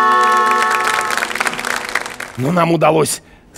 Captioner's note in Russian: Аплодисменты